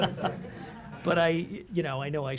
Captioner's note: laughter